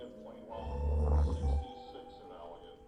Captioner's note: walter snoring